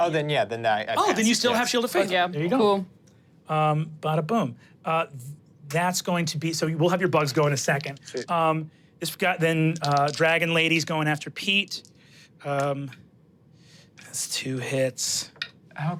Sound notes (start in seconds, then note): 8.0 dice clinking; 11.5 dice rolling; 14.8 dice rolling